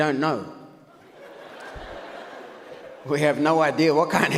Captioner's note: audience laughs